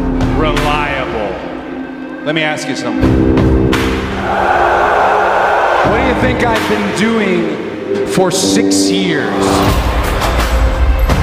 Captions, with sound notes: "Reliable." Let me ask you something. [Fans Cheering continues] What do you think I've been doing for 6 years?